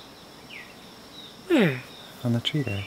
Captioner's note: birds chirping